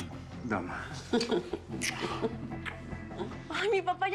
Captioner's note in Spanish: risas